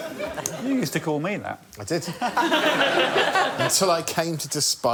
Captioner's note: laughter